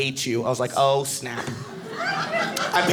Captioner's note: audience laughing